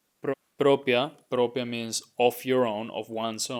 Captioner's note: speaking in Spanish